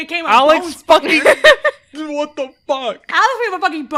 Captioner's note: laughs